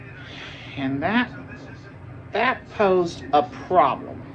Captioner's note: normal voice